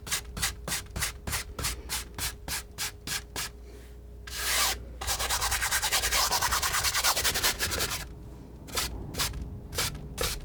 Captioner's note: scratching